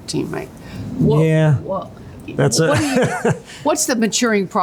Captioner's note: laughs